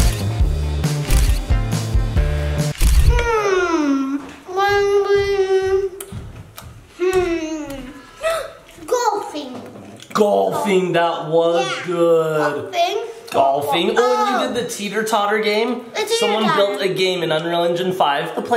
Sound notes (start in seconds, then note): 7.7 gasps